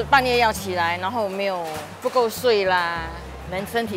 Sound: in mandarin

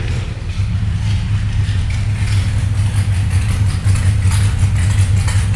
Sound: engine rumbling loudly

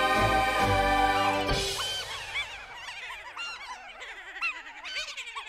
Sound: trucks laughing

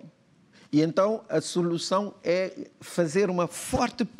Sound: speaking portuguese

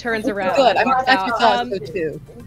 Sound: laughter

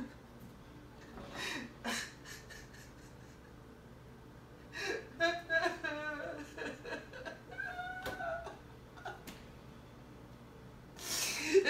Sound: crying

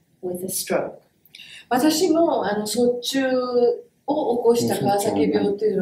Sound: speaks in Japanese

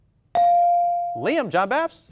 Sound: ding

